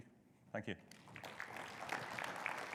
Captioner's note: audience applause